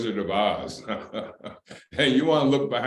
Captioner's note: laughter